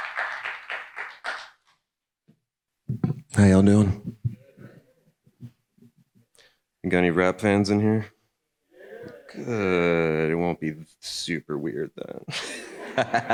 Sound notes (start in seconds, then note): 8.8 audience murmuring; 12.3 everyone laughing